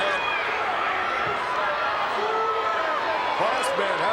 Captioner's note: crowd murmuring